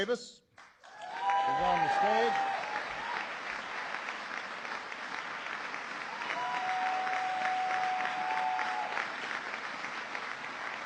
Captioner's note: applause